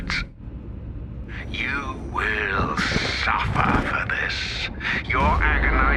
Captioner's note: thunder rumbling